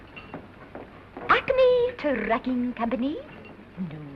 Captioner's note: exaggerated accent